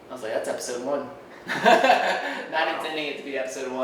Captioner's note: laughing